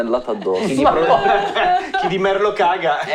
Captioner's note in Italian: Risate